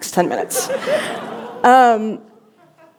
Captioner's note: laughter